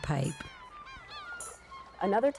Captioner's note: gulls squawking